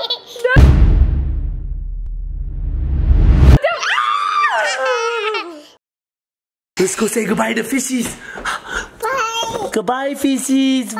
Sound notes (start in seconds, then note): 0.5 loud bang; 4.0 laughing; 4.0 shrieking